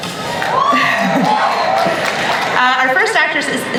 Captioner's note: audience cheering